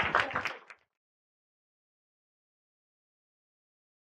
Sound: applause

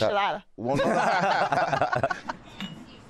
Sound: laughter

